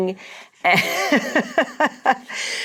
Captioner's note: laughs